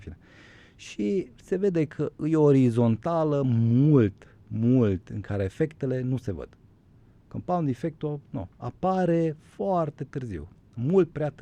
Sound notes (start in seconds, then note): none